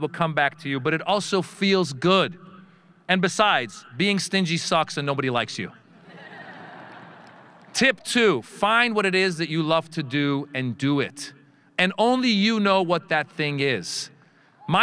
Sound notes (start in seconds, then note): 6.0 audience laughing